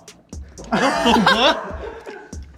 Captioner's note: laughing